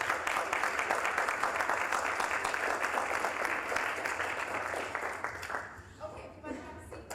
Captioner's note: applause